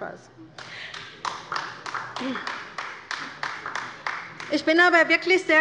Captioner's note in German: Beifall bei der LINKEN